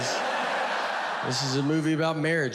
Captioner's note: audience laughs